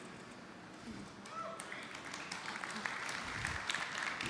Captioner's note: man in audience whoops; audience applauding